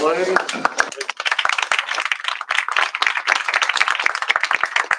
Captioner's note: applause